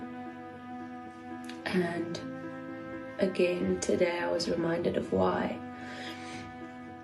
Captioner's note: sniffs